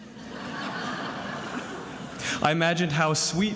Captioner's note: attendees laughing